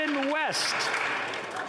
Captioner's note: some Applause